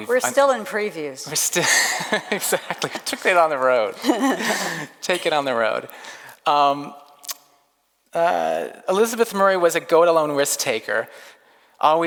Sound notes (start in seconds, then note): 4.0 laughs